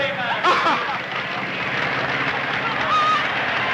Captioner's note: audience applauds